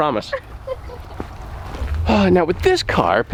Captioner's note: giggles